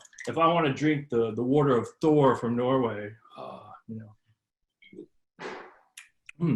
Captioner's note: gulps